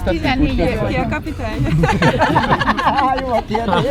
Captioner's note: laughter